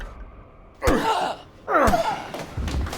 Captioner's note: thudding